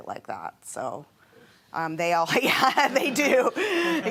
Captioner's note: laughing